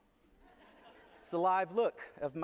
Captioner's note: laughter